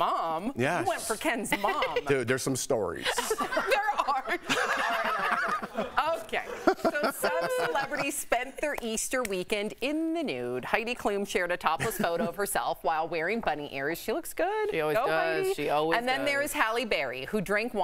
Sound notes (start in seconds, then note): 7.2 laughter